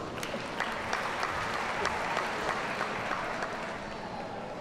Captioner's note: audience applauds